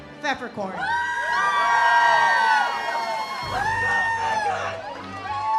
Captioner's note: audience cheers